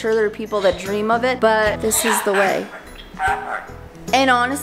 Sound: bird squawks

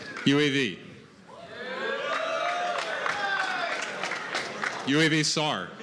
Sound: cheering

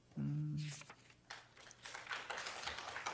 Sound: applause

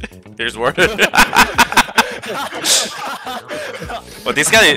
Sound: all laughing

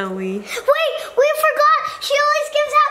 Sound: gasps

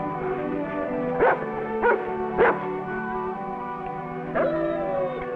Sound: Rebel barks; Rebel whines

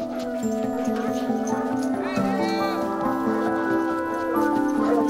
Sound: dogs barking

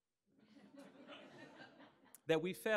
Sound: audience laughing

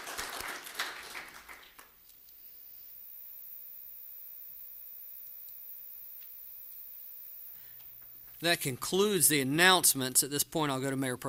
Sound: applause

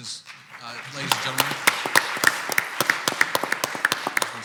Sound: clapping

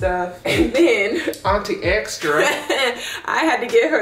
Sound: laughs soflty

